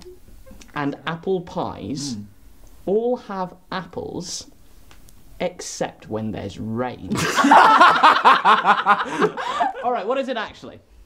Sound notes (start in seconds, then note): 7.1 all laugh